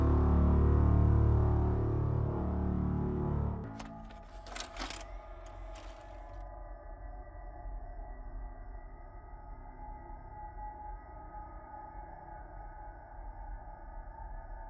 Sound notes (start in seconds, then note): 0.0 soft tense music; 3.6 video cassette clattering; 5.2 VCR whirring; 6.5 soft tense music